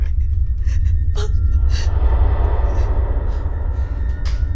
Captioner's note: door creaking